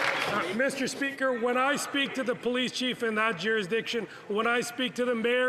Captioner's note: some Applause